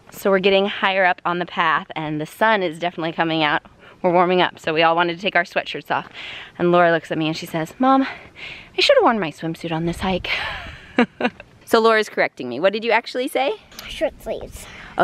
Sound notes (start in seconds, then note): 10.7 laughs